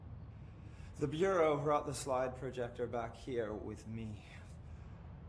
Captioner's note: in normal voice